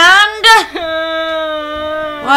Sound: head in the box cries

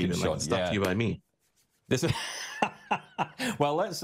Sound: laughing

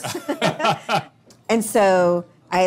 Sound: both laughing

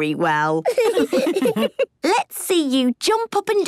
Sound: laughs

